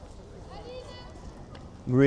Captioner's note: woman speaking in background